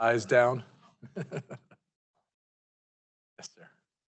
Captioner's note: chuckles